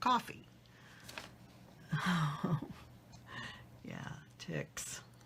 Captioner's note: laughs